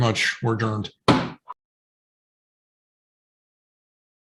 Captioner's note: gavel banging